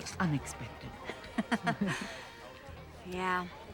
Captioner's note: both chuckle